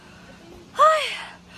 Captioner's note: sigh